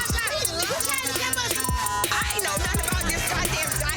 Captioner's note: beep